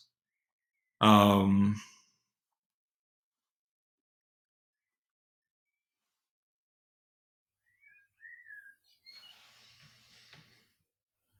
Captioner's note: silence